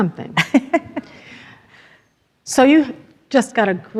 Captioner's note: laughs